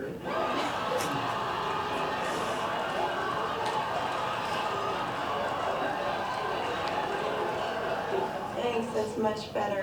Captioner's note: audience laughter